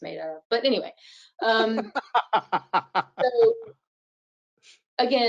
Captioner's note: laughs